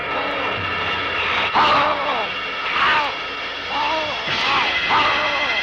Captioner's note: grunting